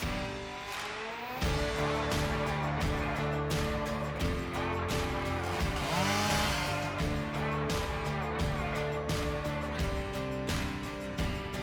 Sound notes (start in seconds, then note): 0.1 upbeat music continues; 5.3 chainsaw buzzing